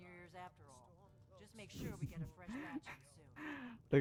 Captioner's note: giggles